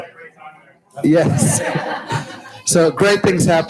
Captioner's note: audience laughs